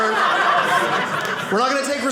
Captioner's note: audience laughing